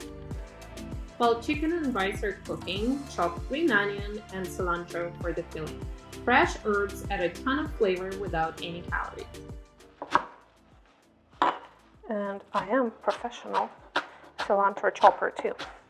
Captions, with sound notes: While chicken and rice are cooking, chop green onion and cilantro for the filling. Fresh herbs add a ton of flavor without any calories. (knife chops) And I am professional cilantro-chopper, too.